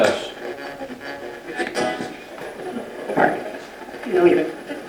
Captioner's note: radio channel changing